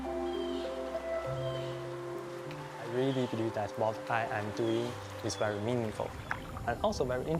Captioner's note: speaking Chinese